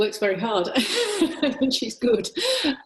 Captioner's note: laughter